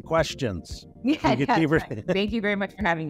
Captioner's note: laughing